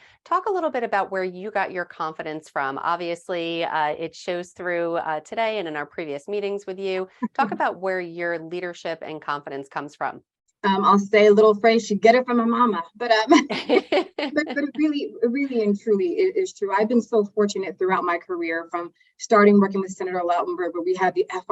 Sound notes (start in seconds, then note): 13.4 laughing